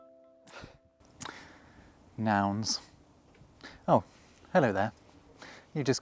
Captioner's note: chuckle